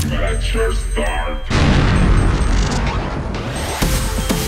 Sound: missile launches

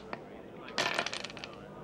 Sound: dice rattling

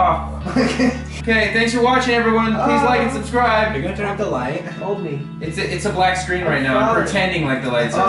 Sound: moaning

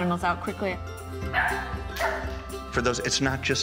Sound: dog barking

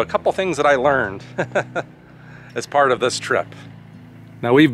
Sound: laughs

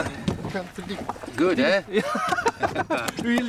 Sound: laughs

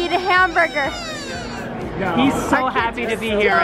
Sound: crying

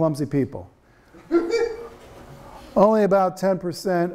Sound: students laughing

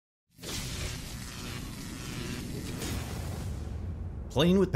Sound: loud electricity sparks zapping

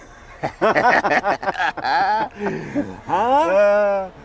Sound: both laughing

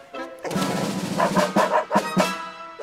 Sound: barking

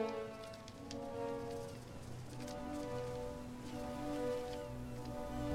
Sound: wings Flapping

